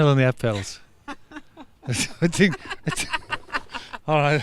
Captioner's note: laughing